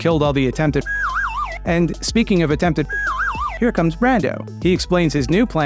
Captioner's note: slide whistle noise